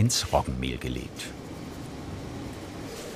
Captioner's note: soft whirring